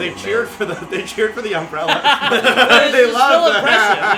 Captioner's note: laughter